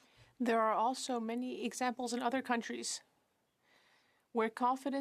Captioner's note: speaking French